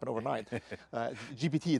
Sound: laughing

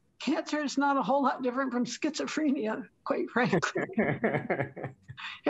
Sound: laughter

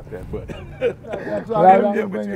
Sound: laughing

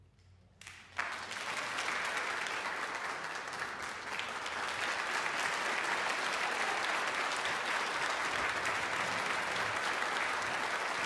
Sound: audience applause

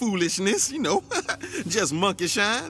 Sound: nervous chuckle

